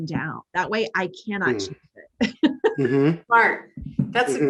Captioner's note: laughing